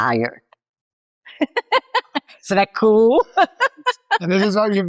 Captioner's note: laughs